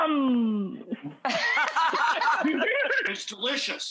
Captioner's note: laughing